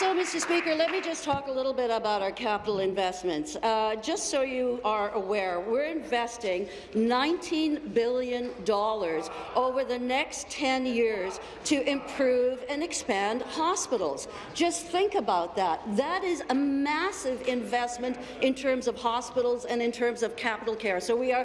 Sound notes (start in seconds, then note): 0.0 applause